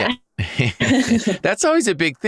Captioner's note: laughs